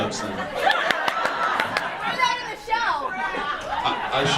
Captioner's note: audience laughs